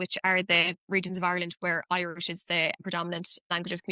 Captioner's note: none